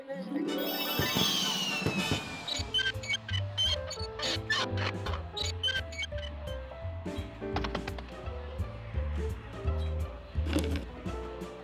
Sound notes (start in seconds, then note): 0.7 exploding fireworks; 2.8 wheels squeaking